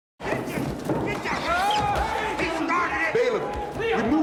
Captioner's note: yelling